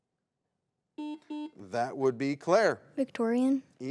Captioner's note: button blips